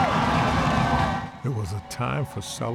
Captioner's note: crowd cheering